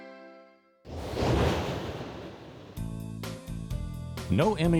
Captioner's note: whooshing